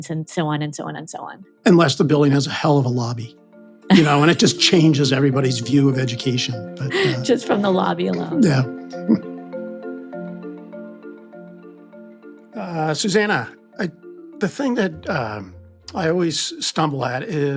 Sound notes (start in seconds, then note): 3.9 chuckling; 8.0 chuckles; 9.5 bright music